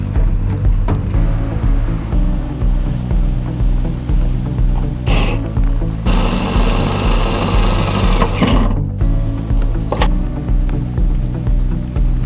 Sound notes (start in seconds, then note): 5.1 drill roaring; 9.0 upbeat music